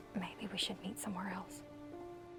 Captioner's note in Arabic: يهمس